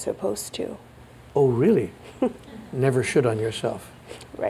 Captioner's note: chuckles